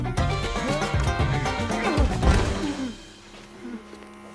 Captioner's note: Homer grunts